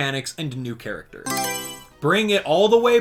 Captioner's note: Mario Selection Sound